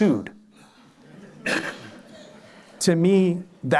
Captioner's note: laughter